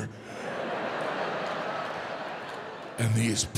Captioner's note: audience laughs